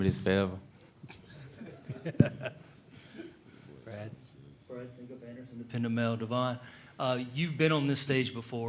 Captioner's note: laughter